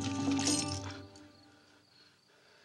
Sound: breathing heavily

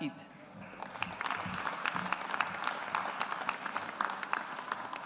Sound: audience applauds

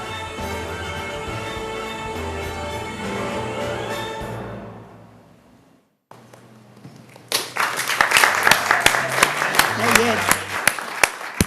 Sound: applause

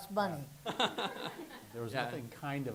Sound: laughs

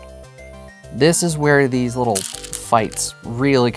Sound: stones rattling

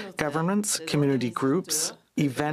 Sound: speaking French

